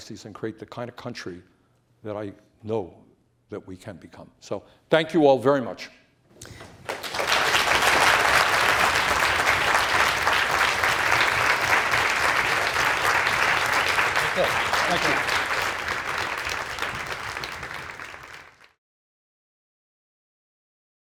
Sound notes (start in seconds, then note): 6.2 applause; 15.2 applause